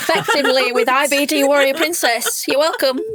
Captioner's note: laughing